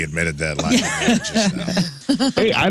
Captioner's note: laugh